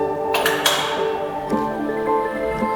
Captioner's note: metal clacks; bright music continues